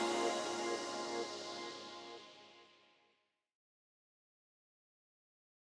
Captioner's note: applause